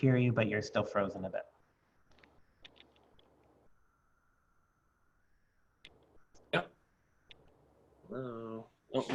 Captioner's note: long pause